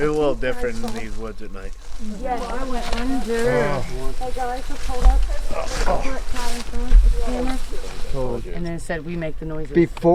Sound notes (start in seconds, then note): 2.4 group chattering